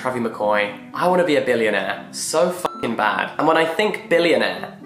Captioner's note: beep